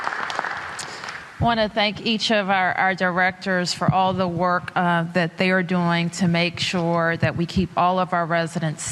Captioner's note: applause